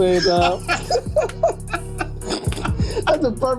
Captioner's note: laughing